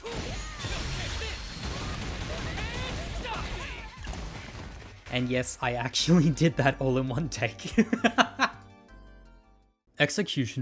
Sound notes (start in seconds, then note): 7.7 chuckles